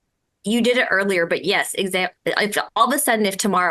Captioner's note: stammers